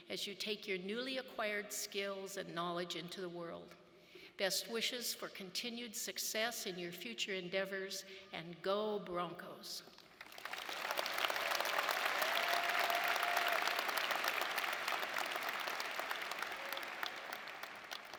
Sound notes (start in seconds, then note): 10.2 audience applauding